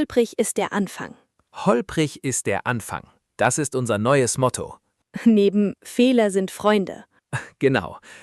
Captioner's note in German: räuspern